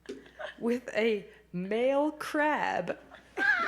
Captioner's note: laughing